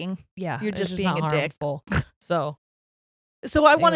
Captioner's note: scoffs